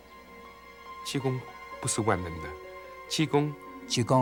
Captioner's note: non-english speech